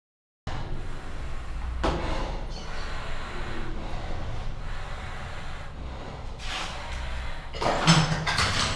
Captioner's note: breathes deeply